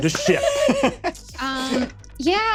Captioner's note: laughs